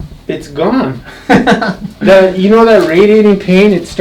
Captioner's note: laughter